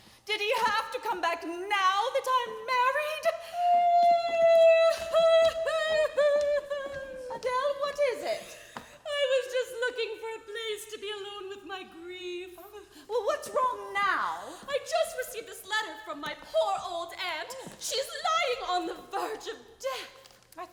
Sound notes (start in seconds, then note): 4.0 cries